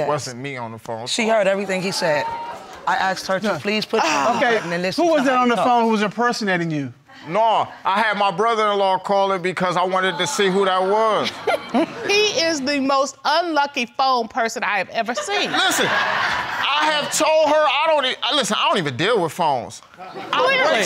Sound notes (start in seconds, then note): 4.0 sighs; 11.2 snickering; 15.2 audience laughing